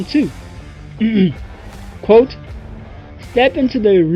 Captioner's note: ahem